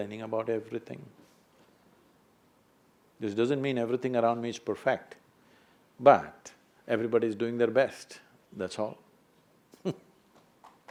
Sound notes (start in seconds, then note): 9.5 applause; 9.8 laughs